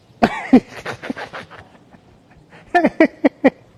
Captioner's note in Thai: เสียงหัวเราะ